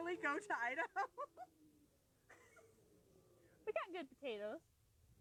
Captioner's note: laughing